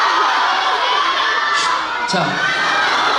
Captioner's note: shushes the crowd